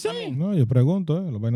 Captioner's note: speaking In Foreign Language